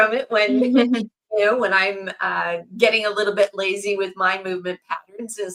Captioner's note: laughs